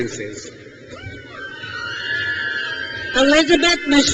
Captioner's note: crowd cheers